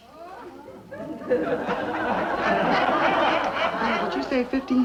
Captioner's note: crowd laughter